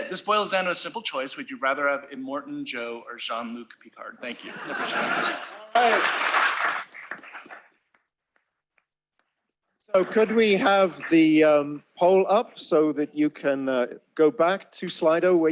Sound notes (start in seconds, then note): 4.3 laughter; 5.6 applause